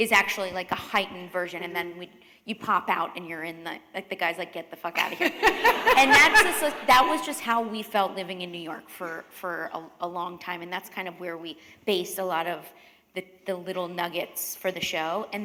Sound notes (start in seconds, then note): 5.0 laughter